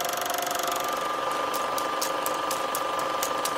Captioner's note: film reel clicking